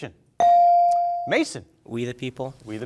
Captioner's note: bell rings